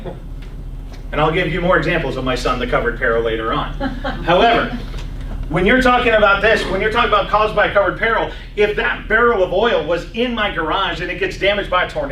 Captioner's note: laughs